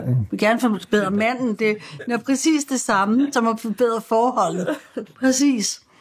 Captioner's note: chuckles